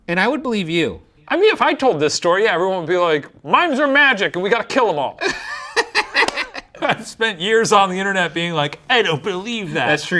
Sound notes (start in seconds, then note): 5.2 laughing